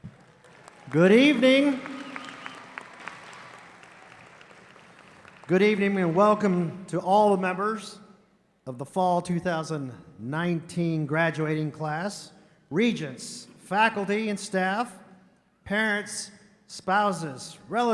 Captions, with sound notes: - Good evening. (audience applauding) Good evening and welcome to all the members of the Fall 2019 graduating class. Regents, faculty and staff, parents, spouses, relatives,